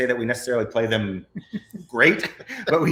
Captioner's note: both laughs